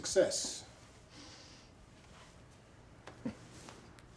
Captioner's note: sniffs